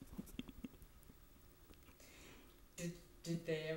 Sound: laughter

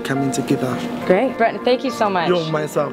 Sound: voiceover

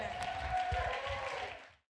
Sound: congregation cheering

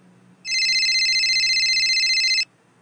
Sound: phone ringing

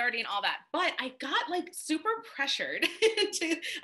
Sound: laughs

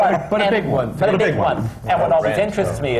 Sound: laughter

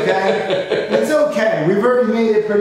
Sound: laughing

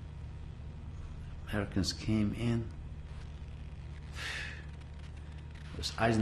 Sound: sigh

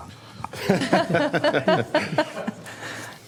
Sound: laughter

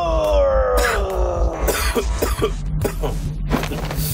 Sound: Papi coughs

